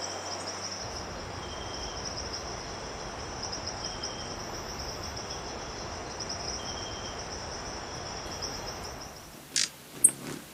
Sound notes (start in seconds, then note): 0.0 birds chirping and singing; 0.8 birds chirping; 1.8 mild wind blowing; 9.9 bird chirping